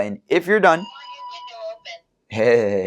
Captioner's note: chime